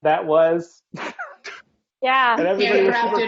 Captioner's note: laughing